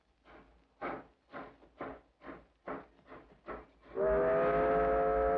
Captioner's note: train chugs; train horn whistles